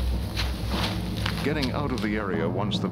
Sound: voiceover

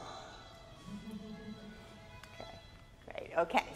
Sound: audience chuckles

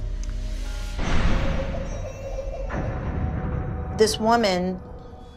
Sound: baby crying

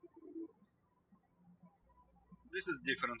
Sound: birds chirping

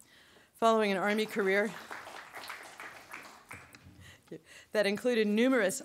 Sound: audience applauding

